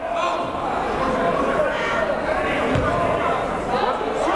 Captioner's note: yelling